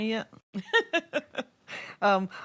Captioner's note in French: Rires